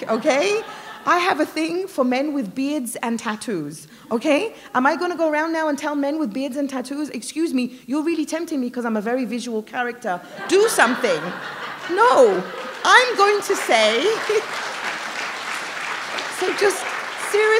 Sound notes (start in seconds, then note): 0.0 laughter; 10.3 laughter; 16.3 applause